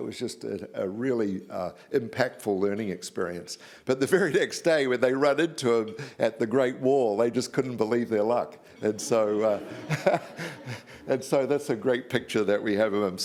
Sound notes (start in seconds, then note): 9.0 audience laughs